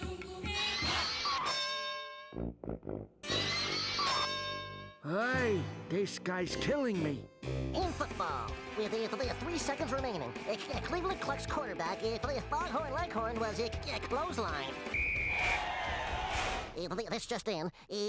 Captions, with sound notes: AY, THIS GUY'S KILLING ME. IN FOOTBALL, WI-WITH 3 SECONDS REMAINING, C-C-CLEVELAND CLUCKS QUARTERBACK, FO-FOGHORN LEGHORN, WAS CL-CLOTHESLINED. [whistle blowing] [audience cheering] EEE-BEE-DEE, TH-THIS JUST IN.